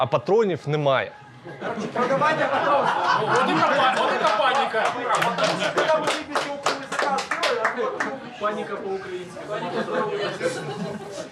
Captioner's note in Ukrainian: сміх натовпу